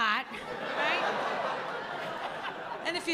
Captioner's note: laughter